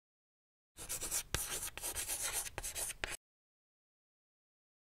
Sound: scribbling noise

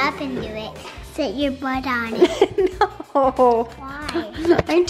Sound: laughs

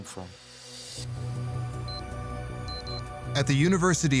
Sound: electronic beeping

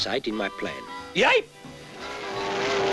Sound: approaching train

